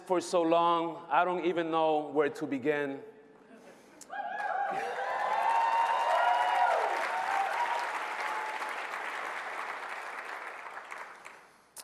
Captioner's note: applause